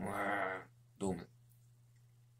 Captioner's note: he is silent